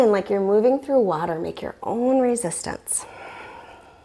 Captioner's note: deep breathing sounds